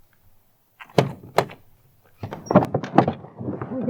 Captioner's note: door opens